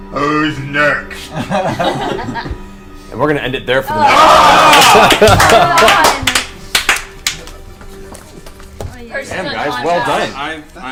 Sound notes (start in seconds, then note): 1.3 all laugh; 3.9 all groan